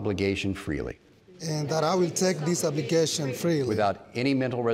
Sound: crowd

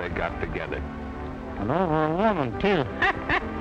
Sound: laughter

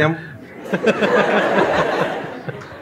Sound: laughter

